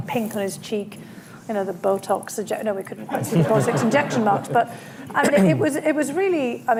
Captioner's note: laughter